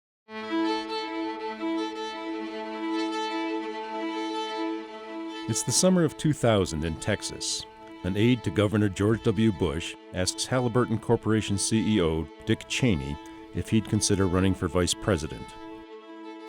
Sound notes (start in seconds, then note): 0.4 violin music; 5.3 voiceover